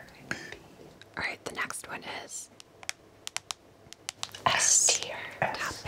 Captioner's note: taps phone